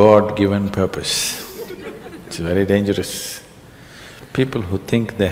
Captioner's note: laughter